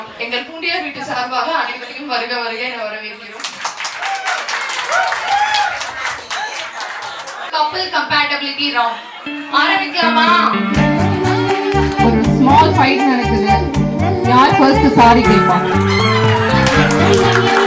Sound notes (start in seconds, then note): 3.5 people cheering